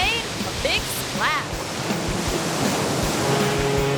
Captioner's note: wave crashing; fog horn blowing